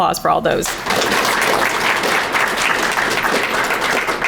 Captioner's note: crowd clapping